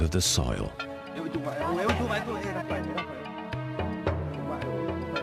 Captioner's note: foreign spoken audio